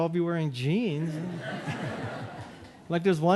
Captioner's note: audience laughing